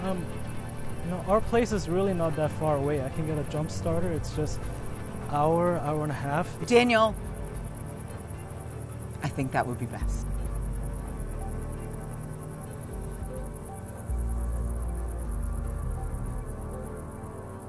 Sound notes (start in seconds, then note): 11.3 insects chirping; 11.3 somber music